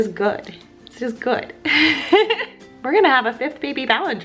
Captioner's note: laughs